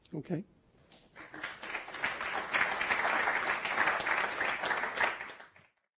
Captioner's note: audience applauding